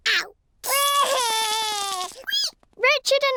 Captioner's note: cries